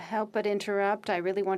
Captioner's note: speaking French